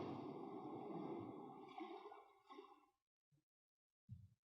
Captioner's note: ocean waves fade out